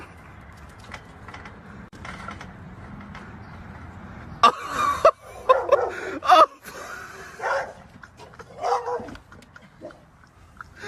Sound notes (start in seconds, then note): 4.4 man laughing; 5.7 dog barking